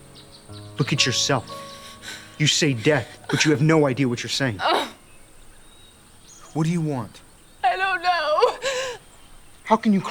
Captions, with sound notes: You say death, but you have no idea what you're saying. (groans) - What do you want? - I don't know! - How can you claim to want somehting